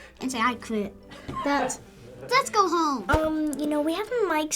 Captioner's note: Finebros laughs